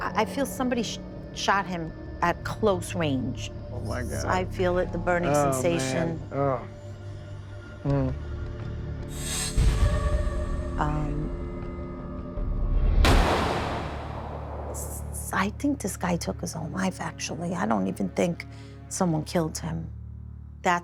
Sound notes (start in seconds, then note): 12.9 gunshot